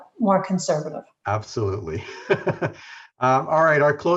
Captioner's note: laughs